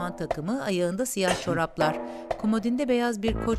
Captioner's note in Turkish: Öksürme sesi